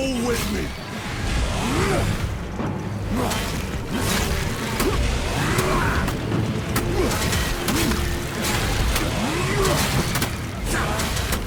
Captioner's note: groaning and screaming